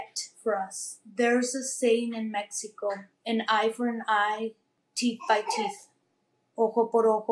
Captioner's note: speaking spanish